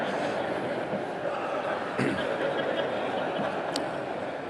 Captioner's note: laughter